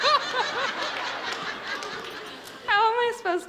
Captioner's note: audience laughs